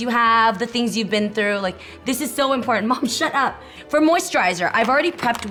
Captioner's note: none